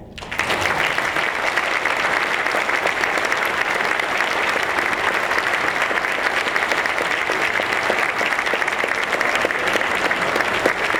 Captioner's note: applause